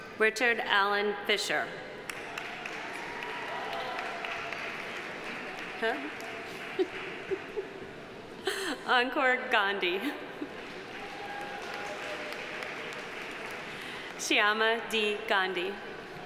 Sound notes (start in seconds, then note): 2.1 audience applauding; 6.4 laughing; 10.4 audience applauding